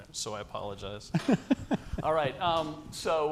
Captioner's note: laughs